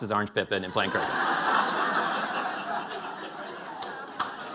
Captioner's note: laughter; applause